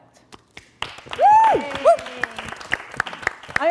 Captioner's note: applause